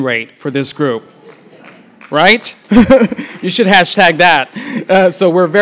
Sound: applause; laugh

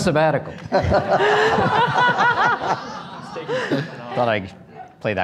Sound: audience laughter

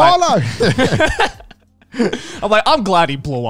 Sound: everyone laughs

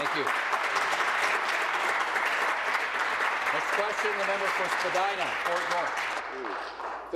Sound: applause

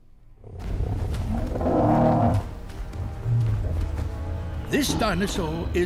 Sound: roar

